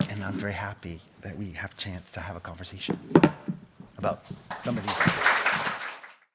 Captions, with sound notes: And I'm very happy that we have a chance to have a conversation about some of these. (audience clapping)